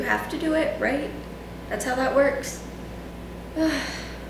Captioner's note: sigh